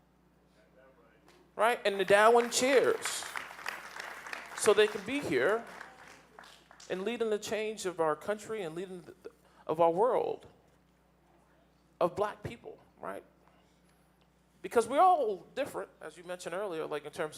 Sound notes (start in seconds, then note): 3.8 audience applauding